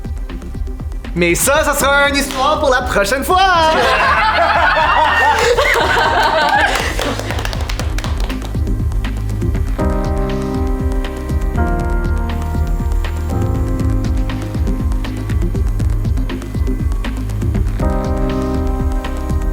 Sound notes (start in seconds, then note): 3.6 frustrated laughter; 5.8 applause